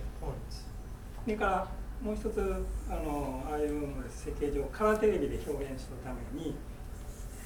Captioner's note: speaking in foreign language